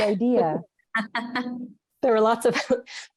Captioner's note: laughter